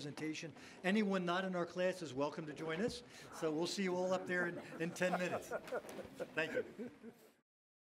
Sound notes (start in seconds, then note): 3.9 laughs